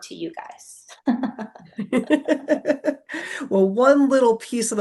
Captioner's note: both laugh